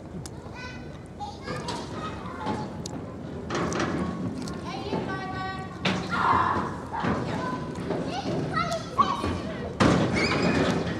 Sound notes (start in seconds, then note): 8.5 they scream